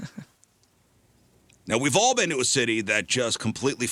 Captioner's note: laughs